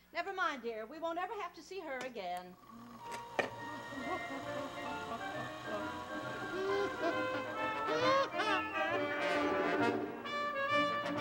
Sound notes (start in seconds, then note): 2.4 vacuum cleaning; 2.8 father chuckling; 10.4 marching band music